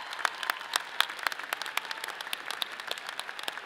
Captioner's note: audience applauds; people cheer